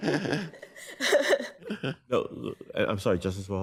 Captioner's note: laughs